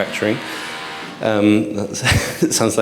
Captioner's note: machine whirring; chuckles